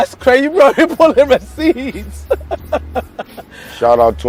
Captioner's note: laughing